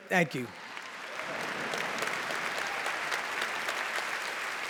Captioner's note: applause